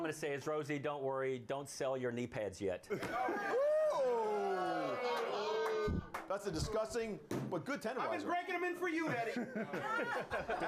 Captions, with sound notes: - I DON'T GET THE SEX BOT THING, BUT ALL I'M GONNA SAY IS ROSIE, DON'T WORRY. DON'T SELL YOUR KNEE PADS YET. [All groan] - THAT'S A DISGUSTING BUT GOOD TENDERIZER.